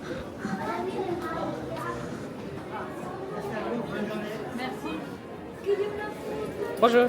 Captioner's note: guests and Cast Members speaking in French